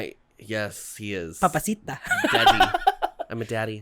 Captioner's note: laughs